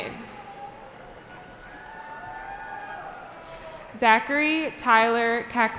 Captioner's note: cheering